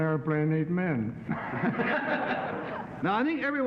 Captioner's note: laughing